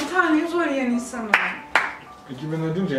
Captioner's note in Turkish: alkış